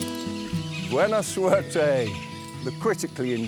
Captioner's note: speaks in foreign language